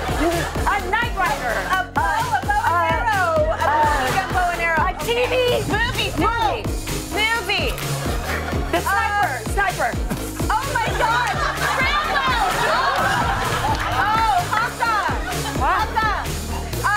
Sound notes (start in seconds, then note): 12.6 laughter